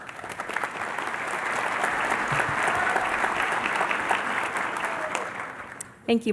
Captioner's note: applause